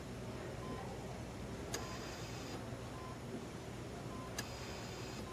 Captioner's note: heart rate monitor beeps